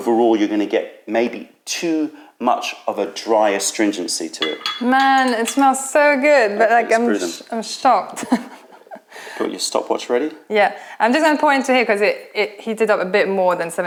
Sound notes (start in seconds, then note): 8.1 laughter